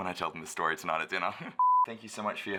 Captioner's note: beeps